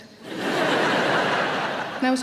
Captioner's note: audience laughing